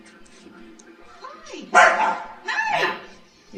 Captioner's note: dog barks